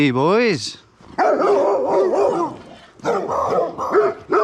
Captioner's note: dogs barking